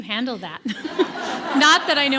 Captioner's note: audience laughing